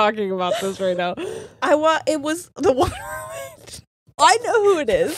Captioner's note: laughs